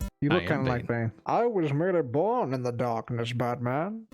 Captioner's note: Bane voice